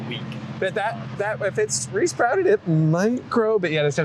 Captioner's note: said wearily